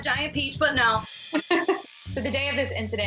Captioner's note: laughs